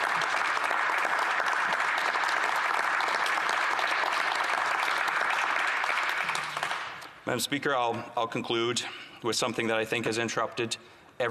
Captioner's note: applause